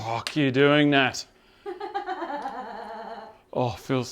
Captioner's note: laughing